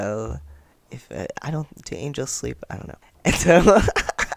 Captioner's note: laughter